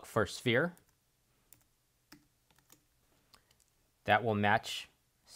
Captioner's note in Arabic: صوت فارغ